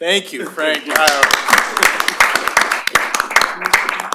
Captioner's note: applause